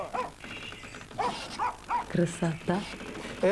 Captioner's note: dog barking